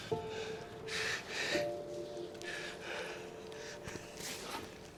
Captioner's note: Mac breathes heavily